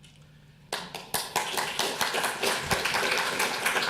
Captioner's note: audience applauds